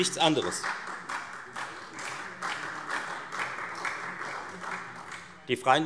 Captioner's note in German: Beifall Freie Demokraten und SPD